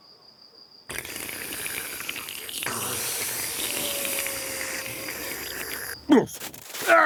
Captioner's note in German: Schlürfen